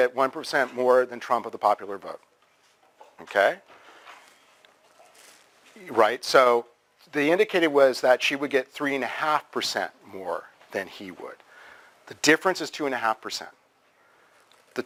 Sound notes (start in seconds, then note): 3.0 pause